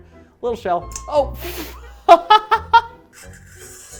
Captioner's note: laughs